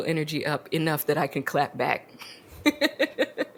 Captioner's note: laughs